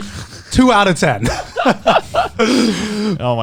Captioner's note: laughing